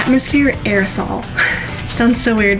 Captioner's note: laughs